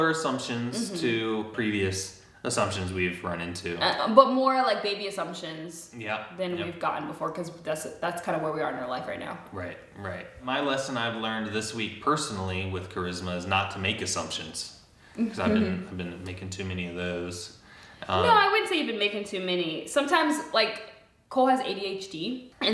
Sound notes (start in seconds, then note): 15.2 chuckles